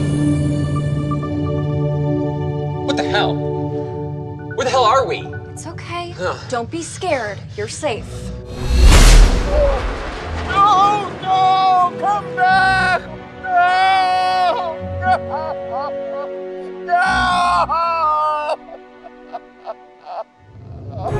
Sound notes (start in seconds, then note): 0.2 suspenseful music; 14.8 sobs; 18.6 sobs